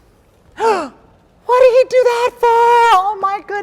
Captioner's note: gasps